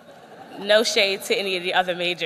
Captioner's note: laughter